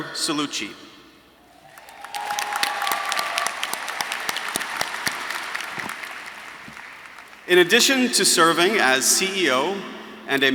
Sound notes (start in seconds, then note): 1.6 audience applauding